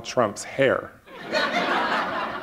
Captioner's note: laughter